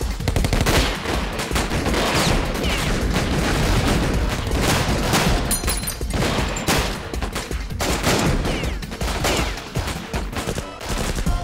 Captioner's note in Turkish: si̇lah sesleri̇